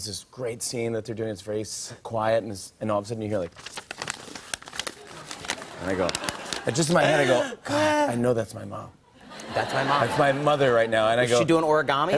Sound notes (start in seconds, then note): 3.3 papers rustling; 11.9 laughter